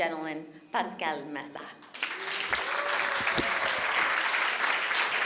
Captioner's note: applause